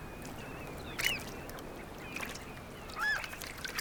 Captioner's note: birds crying